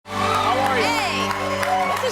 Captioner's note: applause